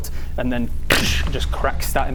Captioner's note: doosh!